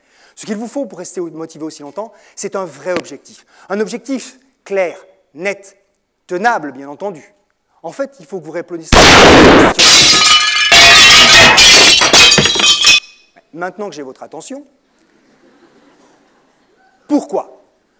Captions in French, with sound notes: Ce qu'il vous faut pour rester motivé aussi longtemps c'est un vrai objectif un objectif clair, net... tenable, bien entendu ! En fait il faut que vous répondiez simplement à cette question (coup de feu et bris de glace) maintenant j'ai votre attention (rire) Pourquoi ?